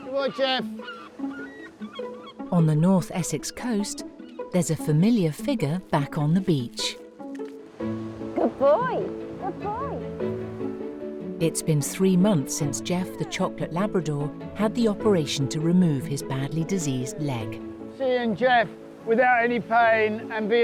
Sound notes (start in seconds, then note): 0.0 gulls squawking; 7.2 upbeat music